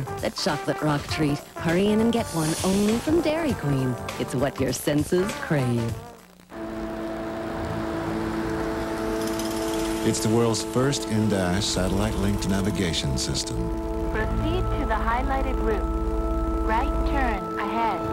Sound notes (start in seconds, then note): 13.7 female GPS voice